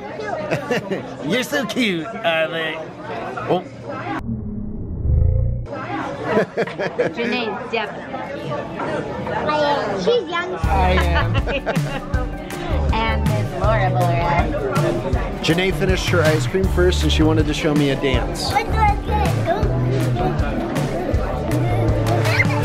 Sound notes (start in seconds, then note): 1.1 laughs; 6.4 laughs; 10.8 laughs